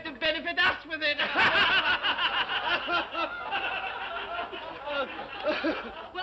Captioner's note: all laugh